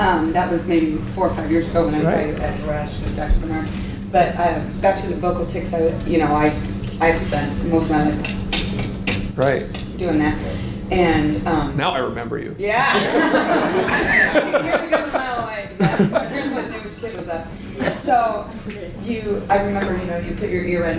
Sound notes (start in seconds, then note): 8.2 tongue clicks rapidly; 12.9 all laugh